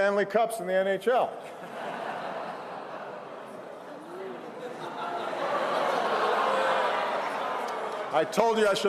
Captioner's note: laughter & groans